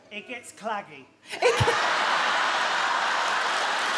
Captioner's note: she laughs